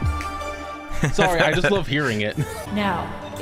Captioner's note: laughter